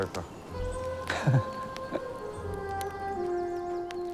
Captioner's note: chuckles